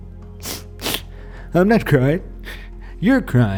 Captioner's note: sniffing